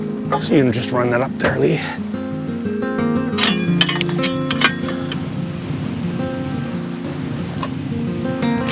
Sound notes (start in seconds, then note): 3.3 hook clanks